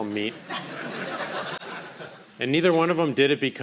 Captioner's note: crowd laughing